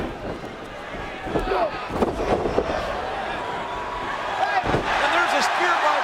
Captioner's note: wrestlers grunting